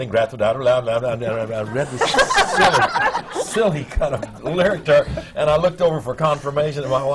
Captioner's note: laughter